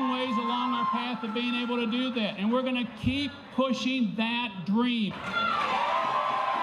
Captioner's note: applause